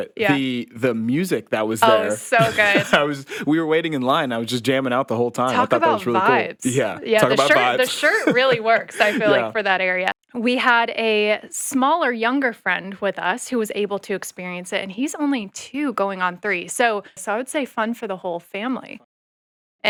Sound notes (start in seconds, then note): 1.4 chuckling; 9.0 chuckling